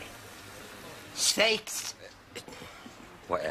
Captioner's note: speaking gibberish